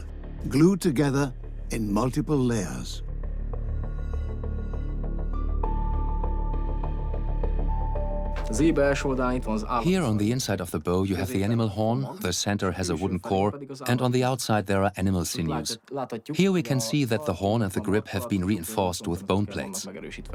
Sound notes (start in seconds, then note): 8.1 in Hungarian; 9.5 dubbed in English